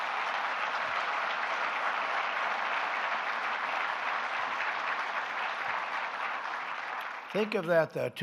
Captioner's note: applause